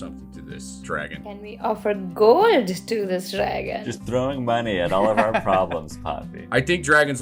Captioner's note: laughter